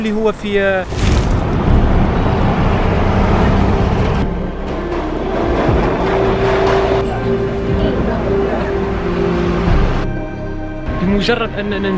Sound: engine sound

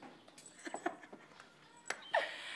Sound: laughs

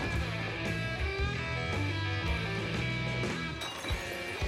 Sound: bottle shatters

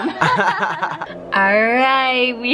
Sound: laughter

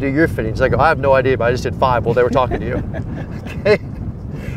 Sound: laughs

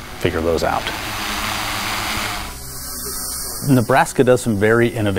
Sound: drone buzzing

